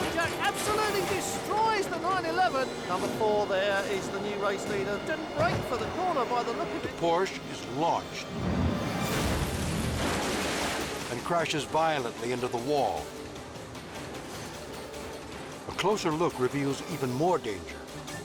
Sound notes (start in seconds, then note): 8.8 car crashes loudly